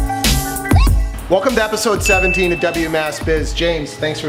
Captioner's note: bell chiming